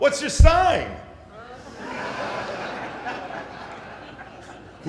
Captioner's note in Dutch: Gelach